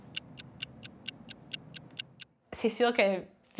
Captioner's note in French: son de chronomètre